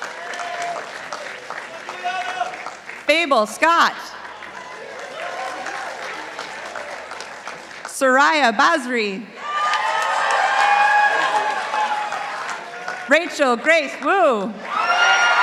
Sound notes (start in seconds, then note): 0.0 participants applauding; 9.4 participants applauding